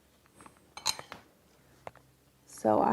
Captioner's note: brush clanks